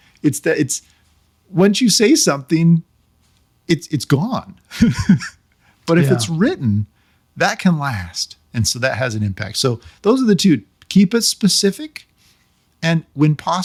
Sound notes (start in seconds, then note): 5.9 laughing